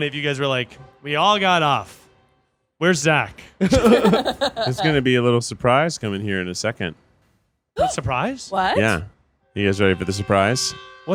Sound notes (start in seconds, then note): 3.6 group laughing